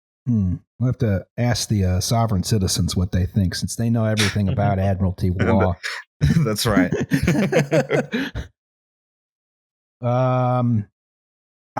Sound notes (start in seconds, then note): 6.2 laughter